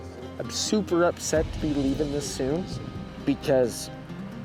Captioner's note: tearfully